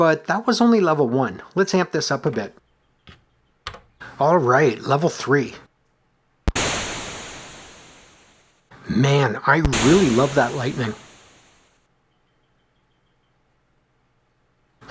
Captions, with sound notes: But that was only level one. Let’s amp this up a bit. All right, level three. [thunder clap] Man… I really love that lightning.